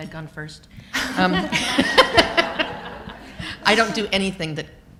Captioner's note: laughter